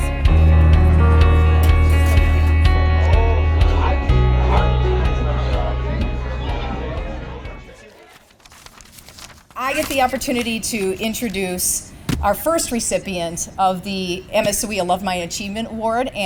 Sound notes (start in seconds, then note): 0.3 light crowd noise; 4.7 music fades out; 7.8 paper shuffling